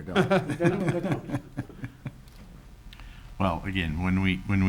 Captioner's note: chuckles